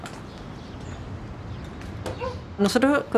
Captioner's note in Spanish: Ladridos